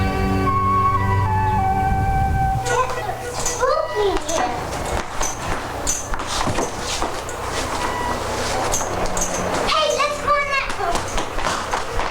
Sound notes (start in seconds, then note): 7.9 wind gushing